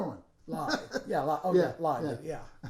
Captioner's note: laughing